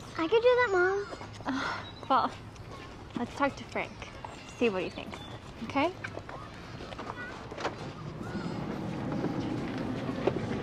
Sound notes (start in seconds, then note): 6.4 birds chirping; 10.4 birds chirping